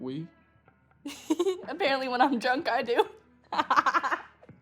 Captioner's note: laughing